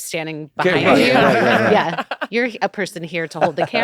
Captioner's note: laughter